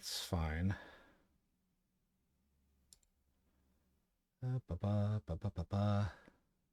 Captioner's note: humming